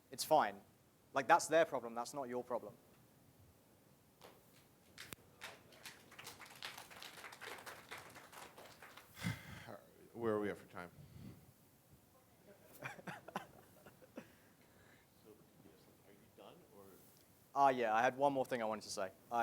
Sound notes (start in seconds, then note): 4.9 applause; 12.5 laughing